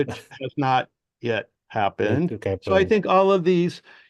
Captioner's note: laughs